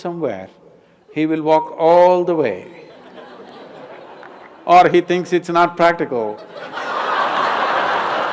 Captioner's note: laughter/Applause; 笑聲/掌聲